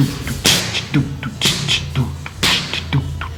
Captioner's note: beat boxing